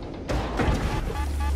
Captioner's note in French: bam